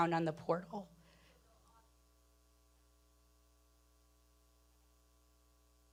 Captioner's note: person speaking away from mic